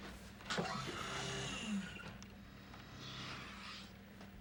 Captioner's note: machine whirring